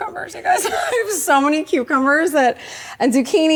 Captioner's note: laughs